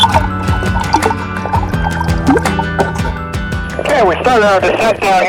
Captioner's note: water rippling